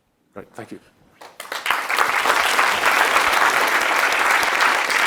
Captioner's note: applause